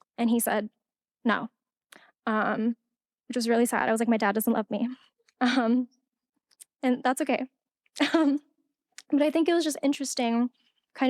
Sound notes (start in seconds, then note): 6.2 laughing